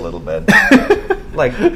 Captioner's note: laugh